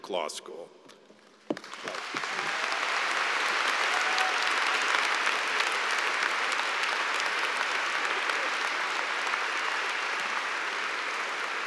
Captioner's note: applause